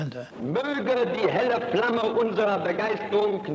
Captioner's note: speaking German